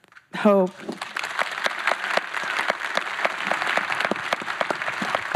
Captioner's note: applause